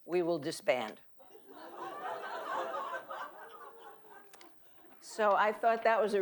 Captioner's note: audience laughing